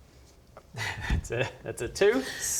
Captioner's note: pitying laugh